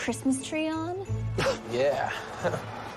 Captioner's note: Cliff snickers